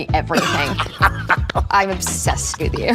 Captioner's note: Colman laughs